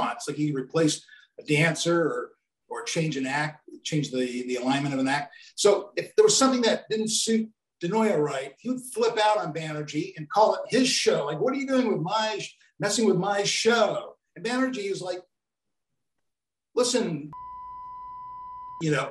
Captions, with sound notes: Like he replaced a dancer or changed an act, changed the alignment of an act. So if there was something that didn't suit De Noia right, he would flip out on Banerjee and call it his show. Like what are you doing messing with my show? And Banerjee's like, listen (beep), it's my (beep) show.